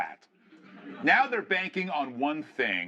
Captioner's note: laughter